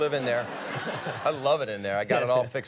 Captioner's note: audience laughs